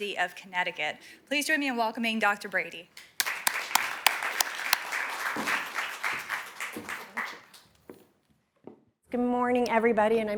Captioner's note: applause